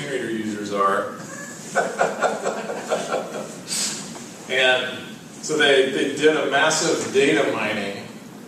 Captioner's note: laugh